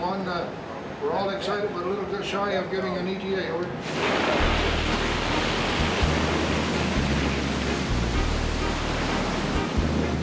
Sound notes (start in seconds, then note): 3.8 water splashing; 4.0 ice cracking